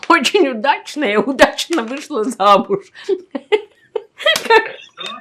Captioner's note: laughing